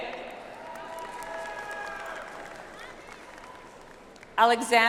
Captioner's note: audience applauds